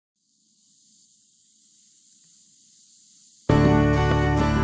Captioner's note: sand trickling